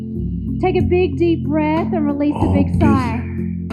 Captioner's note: sighs